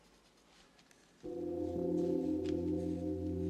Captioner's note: bell tolling